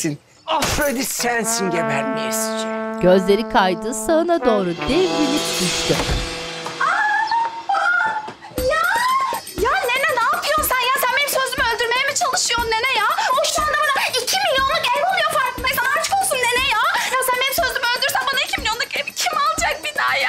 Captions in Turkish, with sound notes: Afrodit sensin gebermeyesice! (Çığlık sesi) Ya! Ya nene ne yapıyorsun sen ya? Sen benim sözlü mü öldürmeye mi çalışıyorsun nene ya? O şu anda bana iki milyonluk ev alıyor farkındaysan. Aşkolsun nene ya! Ya sen benim sözlümü öldürürsen bana iki milyonluk evi kim alacak bir daha ya?